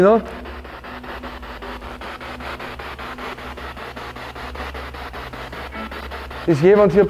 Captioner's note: noise of the spiritbox in the background